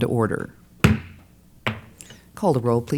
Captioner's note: bang